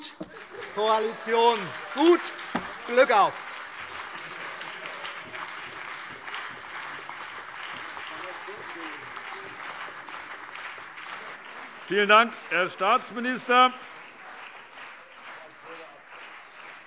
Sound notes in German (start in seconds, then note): 3.5 Heiterkeit und lebhafter Beifall CDU und BÜNDNIS 90/DIE GRÜNEN